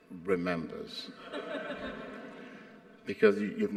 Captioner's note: audience laughs